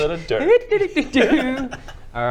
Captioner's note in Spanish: inocentemente